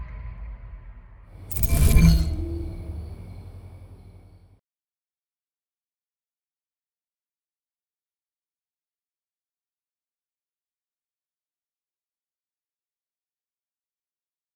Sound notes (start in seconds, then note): 1.5 ring sound effect